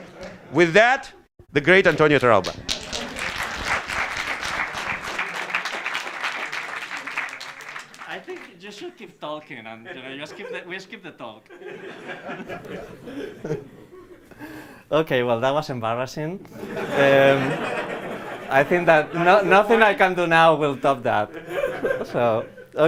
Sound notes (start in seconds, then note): 2.3 applause; 11.4 laughter